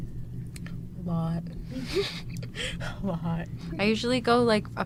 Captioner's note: laughs